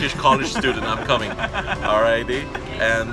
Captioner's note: mutual laughter